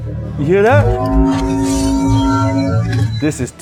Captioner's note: gauntlet hums; gauntlet hums louder